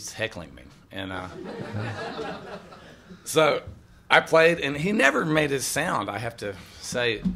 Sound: laughter

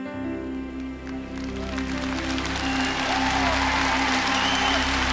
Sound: cheers and applause

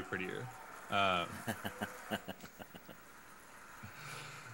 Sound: chuckling

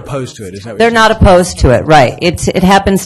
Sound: voiceover

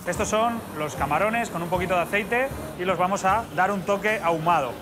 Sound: none

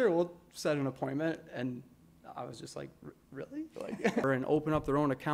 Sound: laughter

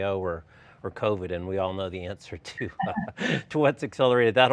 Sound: laughs

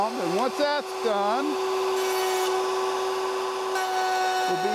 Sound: saw revving

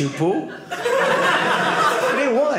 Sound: audience laughing

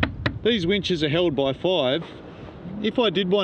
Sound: tap

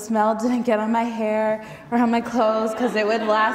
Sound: audience laughing

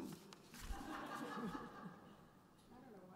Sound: laughter; voiceover

